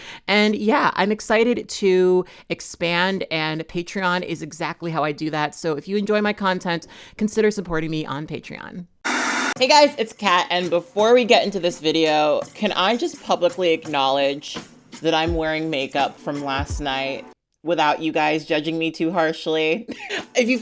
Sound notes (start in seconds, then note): 9.0 screen buzzing